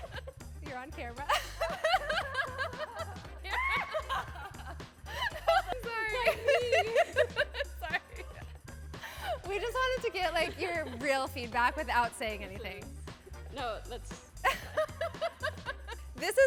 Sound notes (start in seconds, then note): 1.2 laughter; 8.6 laughs; 14.4 laughter